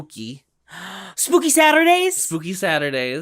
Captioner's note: gasp